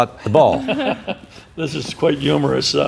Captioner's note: laughing